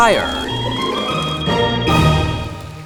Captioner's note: alarm blaring